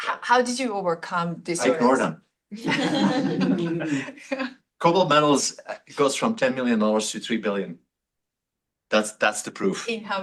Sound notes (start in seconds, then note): 2.5 laughter